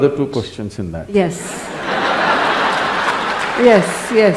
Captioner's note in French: Rires / Applaudissements